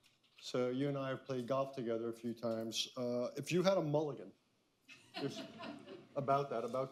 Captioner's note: laughter